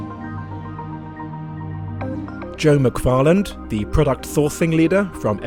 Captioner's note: voiceover